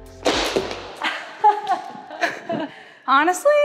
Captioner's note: laughs